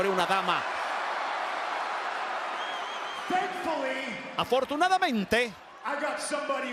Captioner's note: applause